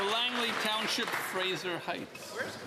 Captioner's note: some Applause